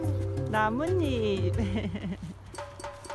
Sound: laugh

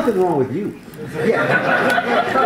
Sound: laughter

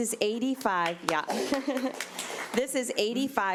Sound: audience applauding

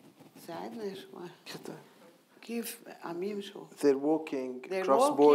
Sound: speaking in foreign language

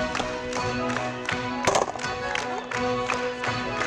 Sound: all clap; ukrainian folk music

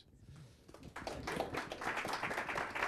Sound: applause

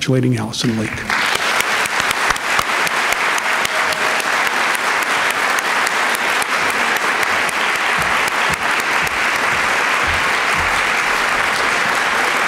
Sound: applause

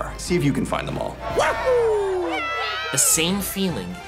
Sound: kid cheering

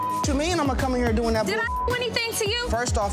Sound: beep

